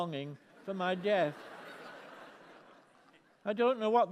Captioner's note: laughter